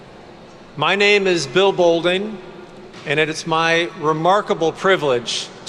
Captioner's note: none